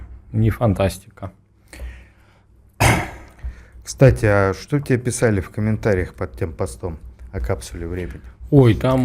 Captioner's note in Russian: откашливается